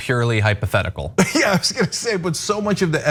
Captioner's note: laugh